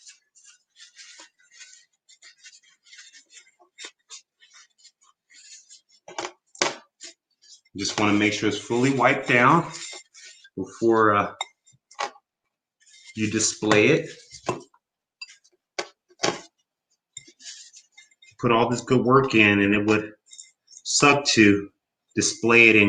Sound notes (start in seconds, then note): 2.7 cloth squeaks